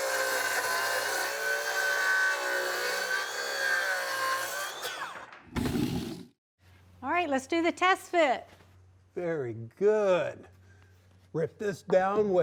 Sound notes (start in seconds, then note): 0.0 wood sawing